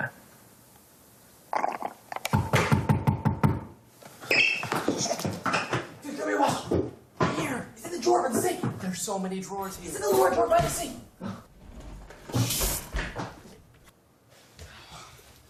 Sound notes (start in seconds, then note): 1.5 slurps juice; 2.4 knocking on door